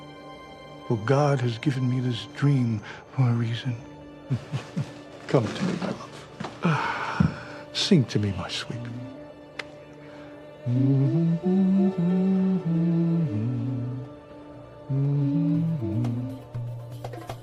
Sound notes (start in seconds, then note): 13.8 humming